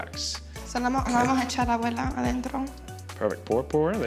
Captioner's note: speaking Spanish